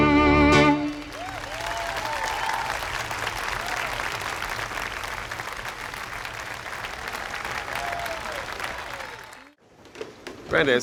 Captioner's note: applause